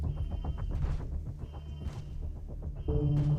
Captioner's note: alarm blaring; dramatic music